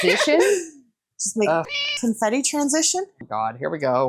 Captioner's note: meow